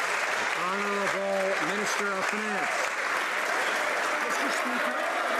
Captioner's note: some Applause